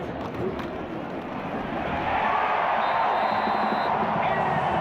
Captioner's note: crowd cheering